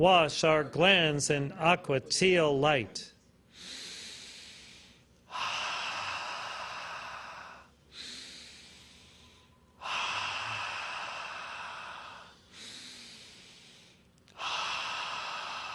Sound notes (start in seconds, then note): 5.1 inhales and exhales four times